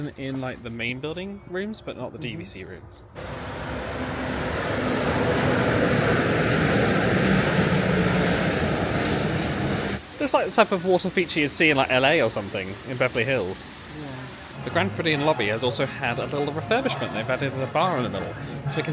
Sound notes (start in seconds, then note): 3.1 monorail swooshes; 4.9 monorail murmurs